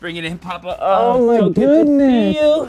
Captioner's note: groans